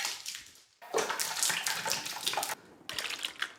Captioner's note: puree squelches